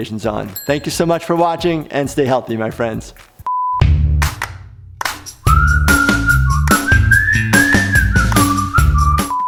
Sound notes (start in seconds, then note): 3.5 beep; 5.4 soft clapping and whistling